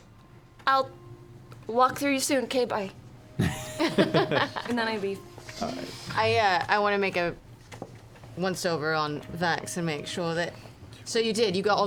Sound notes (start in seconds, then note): 3.4 laughs